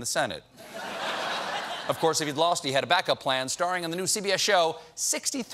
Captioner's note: laughter